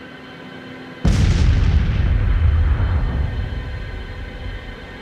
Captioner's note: cannon fires